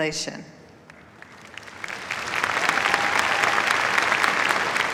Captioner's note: applause